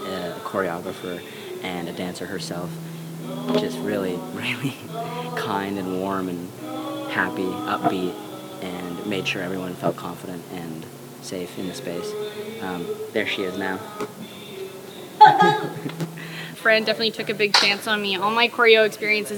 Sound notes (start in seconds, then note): 15.1 chuckles; 15.9 shouts